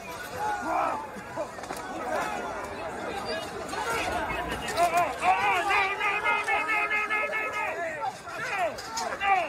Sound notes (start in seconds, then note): 0.5 yelling